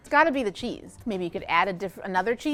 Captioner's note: none